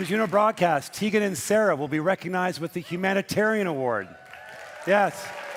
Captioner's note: cheering and Applause